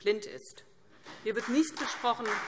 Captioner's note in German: Beifall CDU